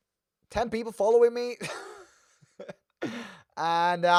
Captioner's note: laughs